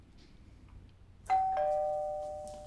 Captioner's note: doorbell ringing